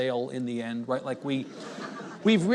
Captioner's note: audience chuckles